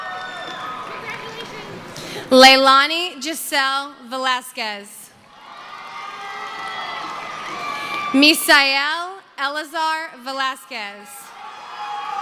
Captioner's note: cheering